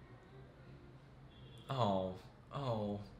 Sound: none

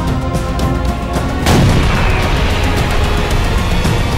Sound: gun firing

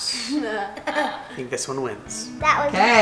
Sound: laughing

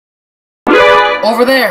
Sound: Sniper game alert

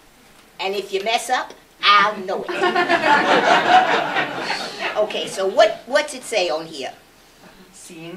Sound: laughter

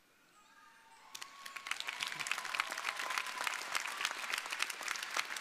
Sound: audience applauding

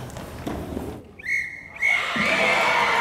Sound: whistle 2 times

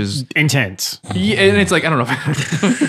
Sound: snoring

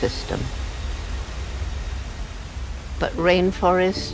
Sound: water crashing

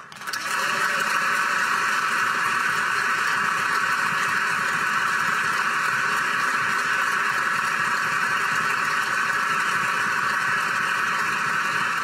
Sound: applause

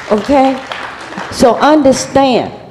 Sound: applause

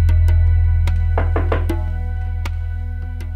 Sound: knocking

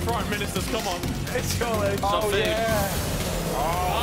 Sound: groaning

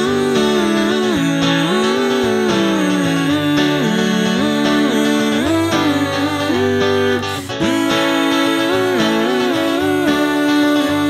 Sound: humming the entire song while pointing!

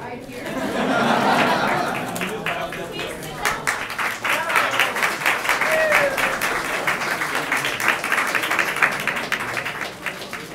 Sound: laughter/applause

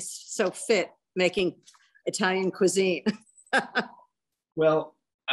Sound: laughs

